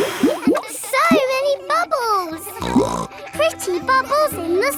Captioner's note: all blowing; snorts